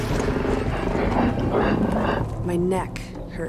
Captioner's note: growling